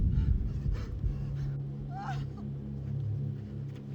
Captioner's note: Dina sobs